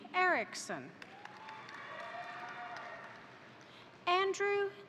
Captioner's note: crowd applauding; crowd cheering